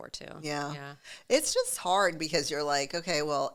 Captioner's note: none